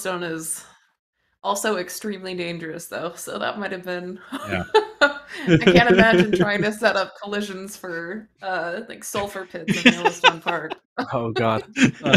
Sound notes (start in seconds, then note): 4.3 laughs